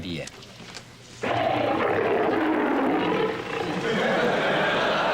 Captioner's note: lion roars